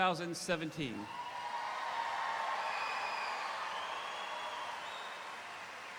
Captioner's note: audience cheering; audience applauding